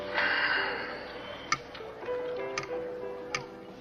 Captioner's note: jazz music continues; Sylvia sighs